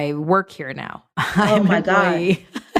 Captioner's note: laughing